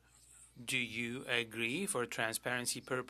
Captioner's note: speaking French